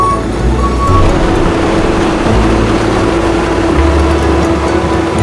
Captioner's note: truck humming